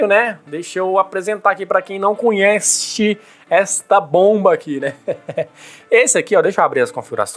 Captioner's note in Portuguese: risadas